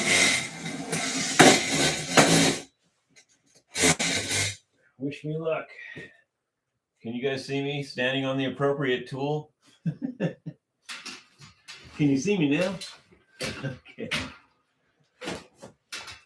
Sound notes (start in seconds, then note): 9.8 laughter